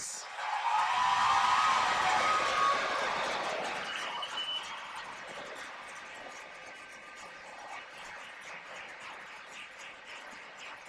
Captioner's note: cheers and applause